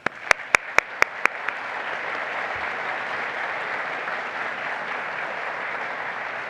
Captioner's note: applause